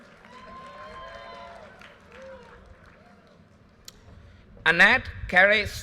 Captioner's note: audience cheers and applause